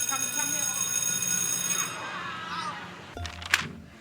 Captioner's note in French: Sonnerie